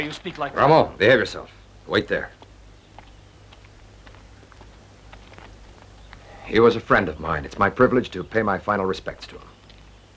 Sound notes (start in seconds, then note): none